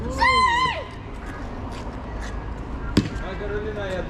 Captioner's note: laughs